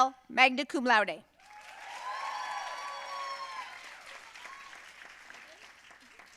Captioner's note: audience cheering and applauding